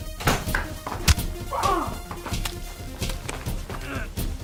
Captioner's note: fighting sounds